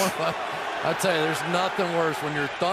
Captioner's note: laughter